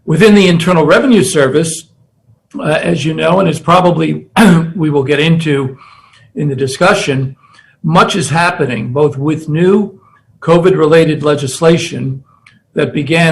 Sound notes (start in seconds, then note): 4.3 cough